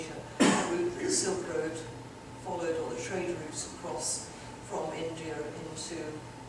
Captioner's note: audience member coughs